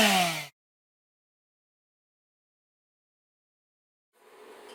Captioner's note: silence